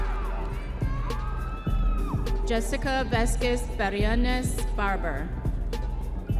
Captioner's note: audience members cheering